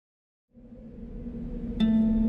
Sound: wind whistling; gentle music

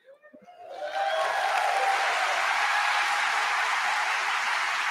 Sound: audience applauding

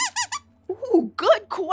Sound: squeaks squeaks

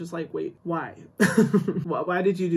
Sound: chuckles

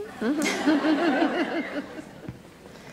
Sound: laughter

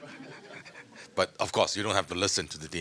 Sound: audience laughing

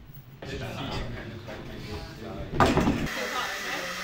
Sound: set noise and chatter

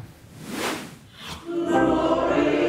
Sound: words swooshing

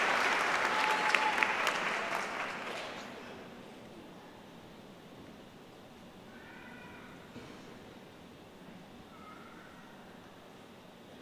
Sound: applause

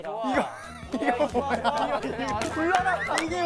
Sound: laughing

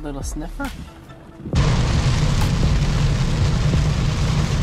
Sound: rain noise

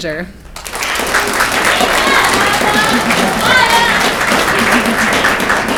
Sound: audience clapping and cheering

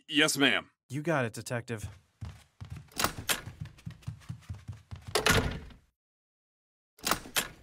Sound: door opens then closes

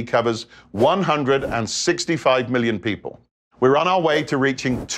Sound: graphics whooshing

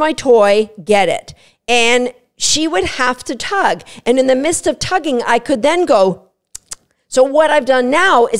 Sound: click- click sound

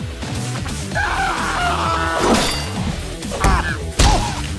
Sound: battle cry

